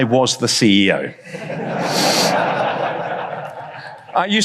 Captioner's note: audience laughs